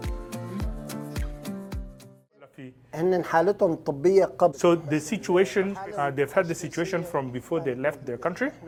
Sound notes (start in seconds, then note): 4.0 speaking Arabic